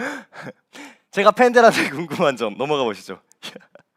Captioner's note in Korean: 헉 소리